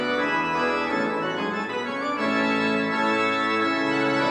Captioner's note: none